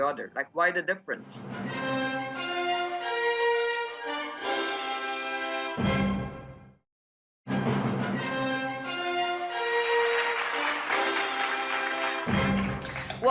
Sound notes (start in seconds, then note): 1.4 triumphant music; 9.8 clapping